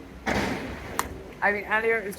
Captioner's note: loud crashing